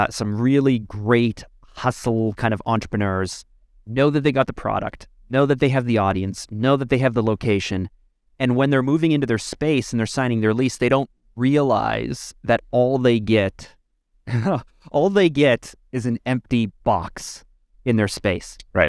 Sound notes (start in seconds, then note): 14.3 laughs